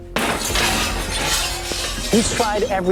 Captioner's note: glass shattering